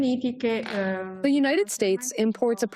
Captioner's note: through translator